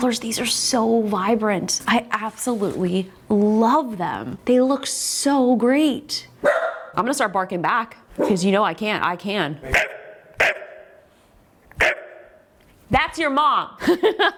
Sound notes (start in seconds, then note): 6.4 dog barks; 10.4 Justine barks; 14.1 laughs